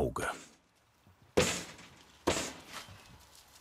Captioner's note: knocking noises